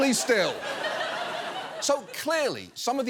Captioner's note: audience laughs